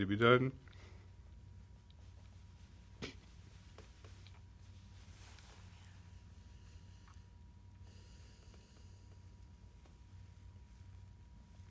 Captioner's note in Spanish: Sin audio